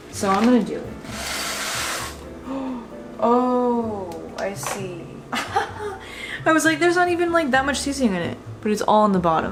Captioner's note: gasp